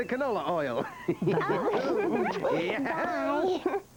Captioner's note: giggling